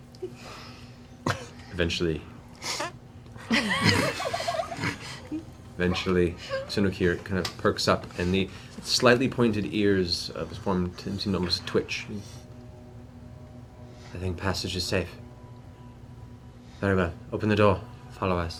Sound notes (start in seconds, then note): 3.6 fart sound